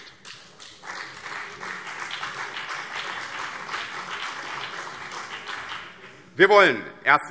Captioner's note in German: Beifall BÜNDNIS 90/DIE GRÜNEN und CDU